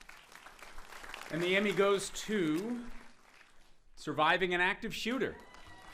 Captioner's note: applauding